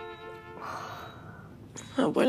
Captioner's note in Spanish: Sonido de telemetría